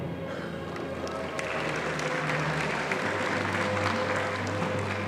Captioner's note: audience applauding